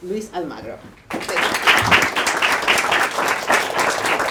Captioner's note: crowd claps